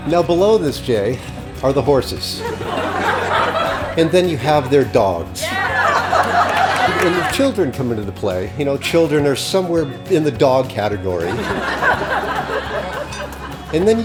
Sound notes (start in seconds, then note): 2.9 crowd laughs; 5.8 crowd laughs; 11.0 crowd laughs